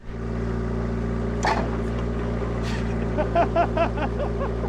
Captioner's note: engine rumbling; chuckling